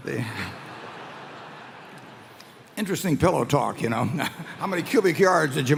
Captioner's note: laughter; laughter